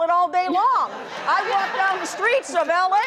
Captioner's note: audience laughs